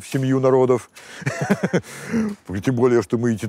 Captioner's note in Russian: усмехается